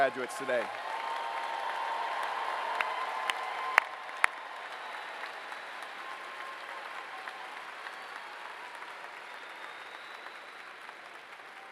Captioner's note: applause